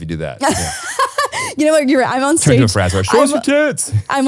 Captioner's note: laughing